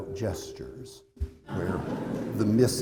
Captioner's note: laughter